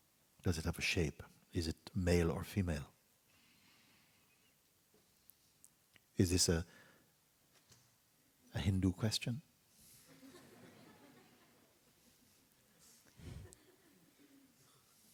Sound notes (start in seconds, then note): 10.0 laughter; 11.9 silence